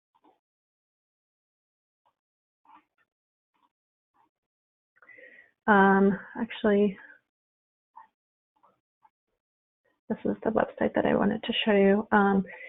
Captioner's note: silence